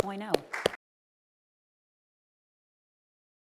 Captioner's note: clapping